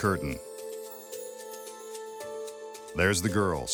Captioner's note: magical dust tinkling